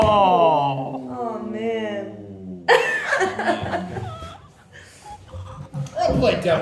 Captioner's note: laughs